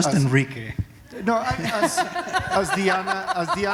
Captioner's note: laughter